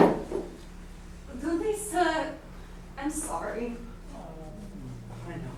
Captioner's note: speaking grammelot